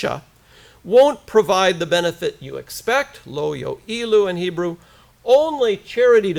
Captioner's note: foreign language; hebrew